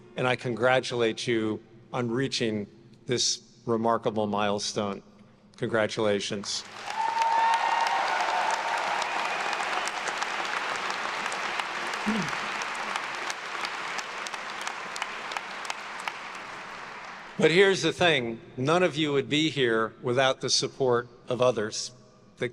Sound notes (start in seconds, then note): 6.9 attendees cheering and applauding